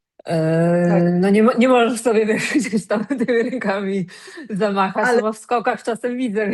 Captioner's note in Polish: śmiech